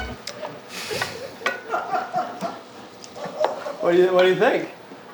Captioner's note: laughs